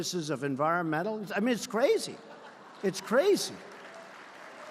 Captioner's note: applause